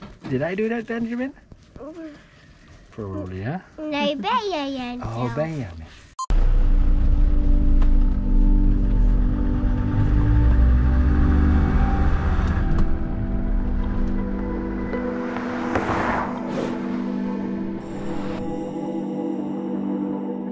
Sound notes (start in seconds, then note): 10.1 car revving; 12.6 calming electronic music